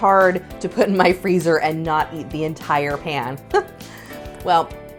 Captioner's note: chuckles